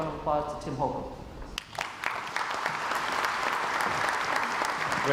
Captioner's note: crowd applauds